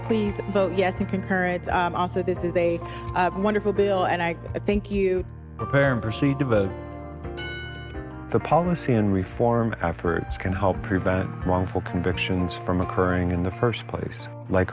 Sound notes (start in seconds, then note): 7.3 bell rings